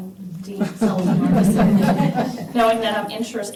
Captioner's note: laughter